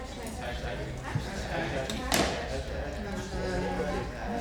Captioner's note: all murmuring